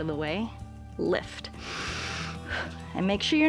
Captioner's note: inhales and exhales